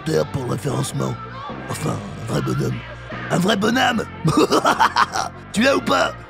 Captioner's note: ugly laugh